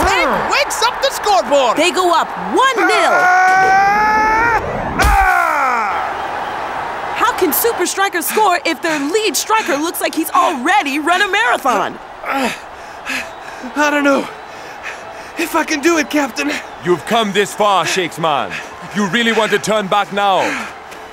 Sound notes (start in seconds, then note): 2.6 screaming; 6.2 cheering; 12.0 panting